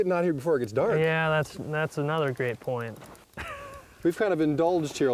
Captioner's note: pat